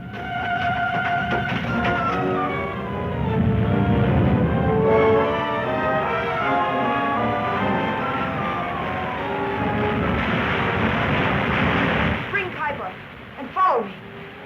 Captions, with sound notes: (dramatic music) (volcano rumbling) - Bring Kyba and follow me.